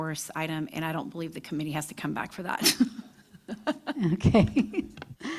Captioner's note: laughter